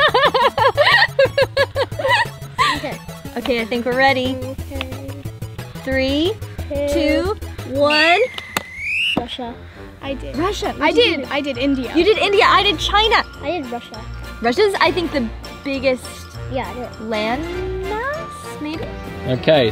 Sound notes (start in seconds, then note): 0.0 laughs; 7.8 whistle blows